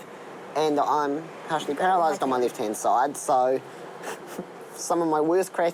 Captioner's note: chuckles